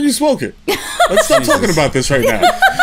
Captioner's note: laughter